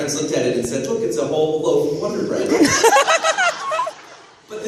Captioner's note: laughter